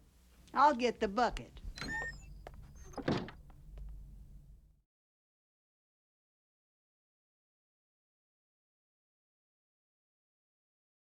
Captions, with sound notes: I'll get the bucket. *DOOR CREAKS*